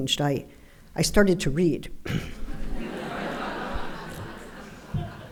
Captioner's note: audience laughing